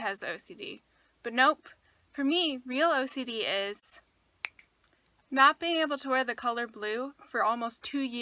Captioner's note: snaps